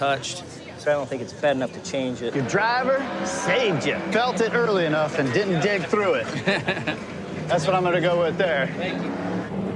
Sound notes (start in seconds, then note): 6.0 laughter; 9.5 engine sputtering